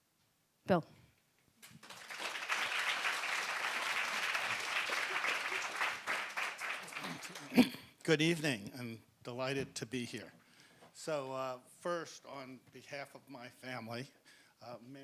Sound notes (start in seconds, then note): 1.6 audience applauds